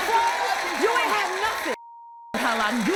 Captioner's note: beep